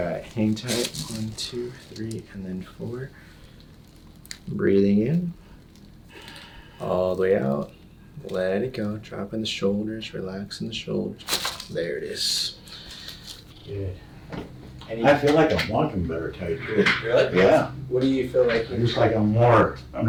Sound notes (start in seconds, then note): 11.2 body cracks